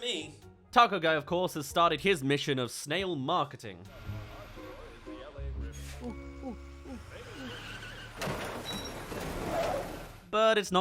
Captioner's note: tour bus blazes past